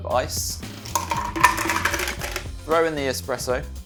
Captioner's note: ice clattering